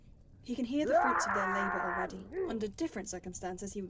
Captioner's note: distant “achoo’s”